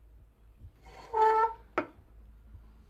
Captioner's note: slight squeak